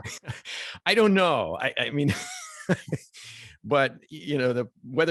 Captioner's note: laughs